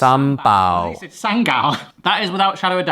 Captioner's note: laughs